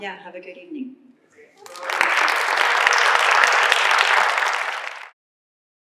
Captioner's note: applause